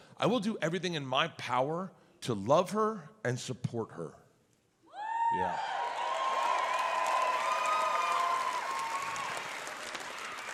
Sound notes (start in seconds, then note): 5.0 audience cheers